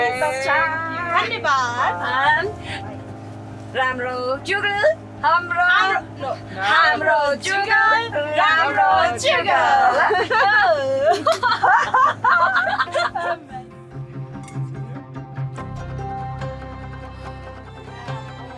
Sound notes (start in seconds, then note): 12.4 laughs; 12.9 upbeat music